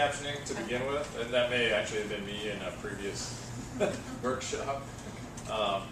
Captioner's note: laugh